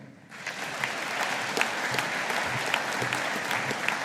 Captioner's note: audience applauding